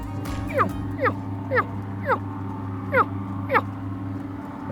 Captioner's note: animal calling